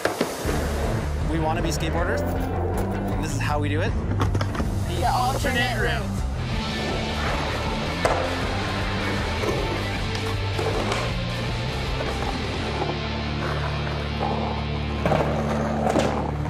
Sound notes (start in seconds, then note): 7.7 skateboarding sounds